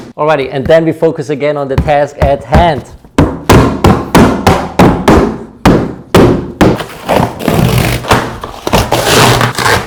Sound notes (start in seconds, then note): 1.8 puncturing box; 6.8 cardboard ripping